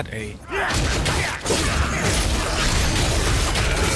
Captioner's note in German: Schnelle Kampf- und Schlitzgeräusche